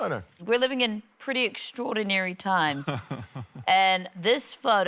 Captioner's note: chuckles